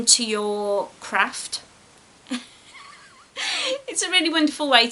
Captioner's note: laughs